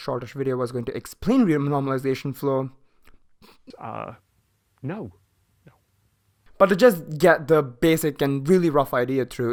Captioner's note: laughs